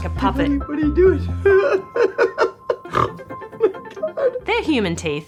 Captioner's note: laughs